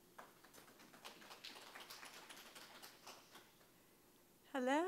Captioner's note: attendees applauding